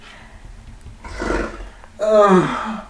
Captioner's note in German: stöhnt; lacht; Aus dem Off